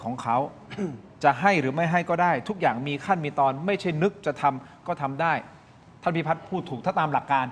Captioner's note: clears throat